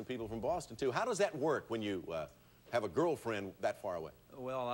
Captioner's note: none